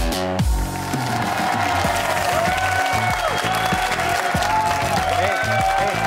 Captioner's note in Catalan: aplaudiments